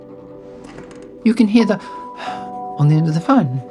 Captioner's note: breathing